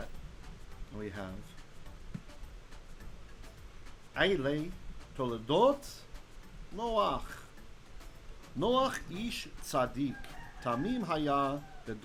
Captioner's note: Hebrew